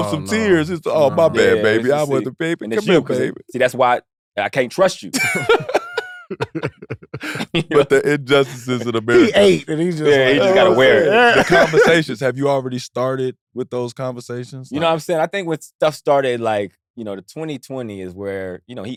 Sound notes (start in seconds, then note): 5.1 laughs